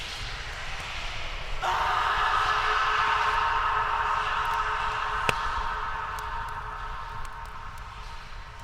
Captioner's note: sound of distant screams in the background